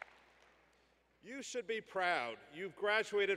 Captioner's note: applause